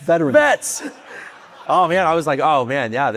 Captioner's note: audience laughing